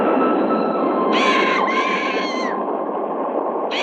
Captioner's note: bird screeching